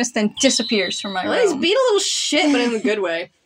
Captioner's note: chuckle